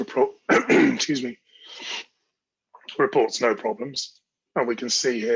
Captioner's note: clears throat